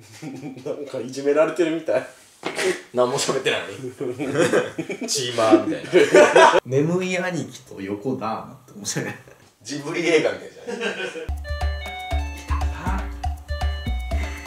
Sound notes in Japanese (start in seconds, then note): 10.6 笑い声